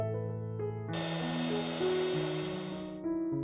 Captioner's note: whirring of heat-gun